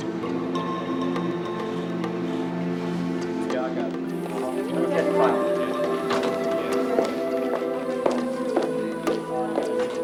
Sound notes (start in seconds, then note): 3.6 people chattering; 4.3 dramatic music